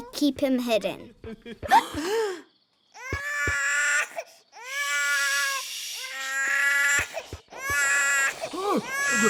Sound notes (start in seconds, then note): 1.7 all gasp; 2.0 baby cries